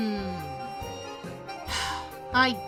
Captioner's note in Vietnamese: Thở dài